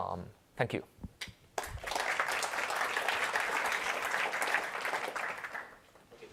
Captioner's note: applause